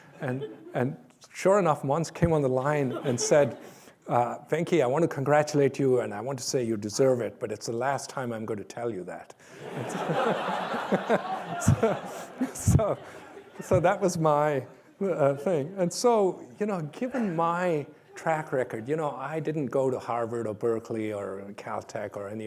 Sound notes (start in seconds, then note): 9.6 laughter